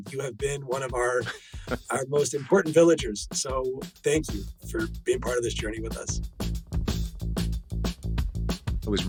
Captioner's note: laughs